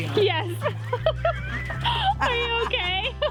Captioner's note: laughing